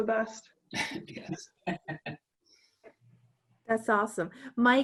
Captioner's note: laughs